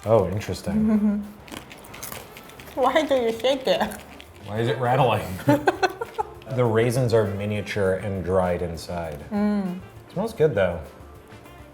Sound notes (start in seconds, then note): 1.2 chewing; 5.2 laughing